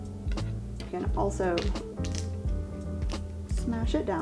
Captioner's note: smooth jazz music continues; palm smashes